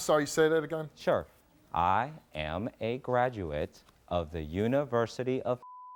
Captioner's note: beeping